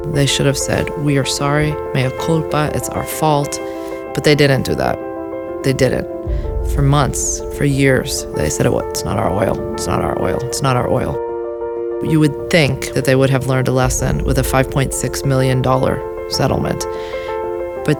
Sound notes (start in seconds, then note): 2.0 speaking in foreign language